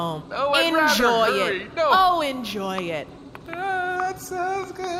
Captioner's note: as she walks away, whimpering